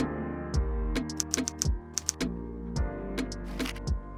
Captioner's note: keyboard typing